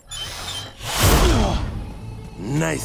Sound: grunting

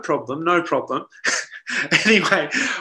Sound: laughs

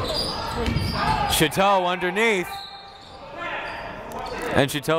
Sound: whistle

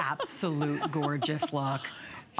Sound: laughter

